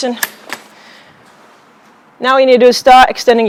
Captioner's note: pole clicks